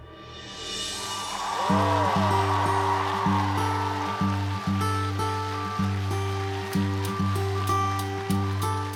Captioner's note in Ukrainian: оплески